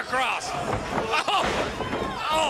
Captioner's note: crowd chatter